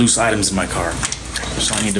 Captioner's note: door opens